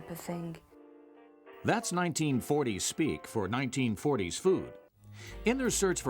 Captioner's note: voiceover